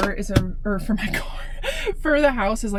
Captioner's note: laughs